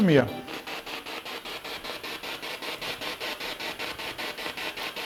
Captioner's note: noise of the spiritbox in the background